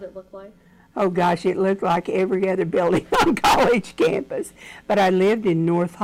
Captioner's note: laughs